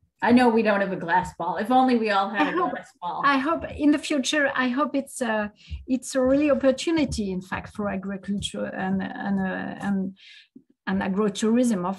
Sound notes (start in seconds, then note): 2.3 laughs